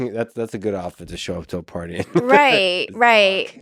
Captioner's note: laughs